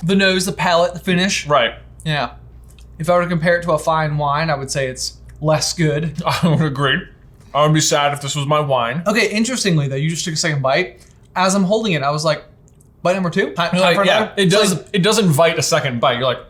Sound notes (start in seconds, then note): 6.1 laughs